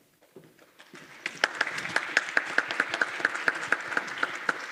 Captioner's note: applause